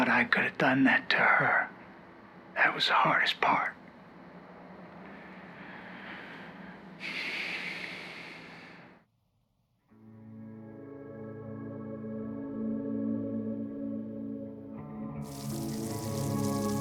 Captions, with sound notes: I could have done that to her... that was the hardest part. [sighs] [sad music]